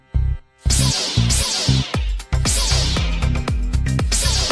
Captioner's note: swords crackling